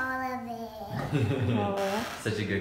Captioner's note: laughs